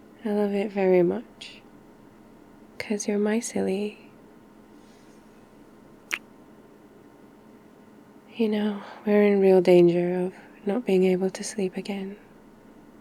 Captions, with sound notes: I love it very much cos you're my silly *kiss* you know we're in real danger of not being to sleep again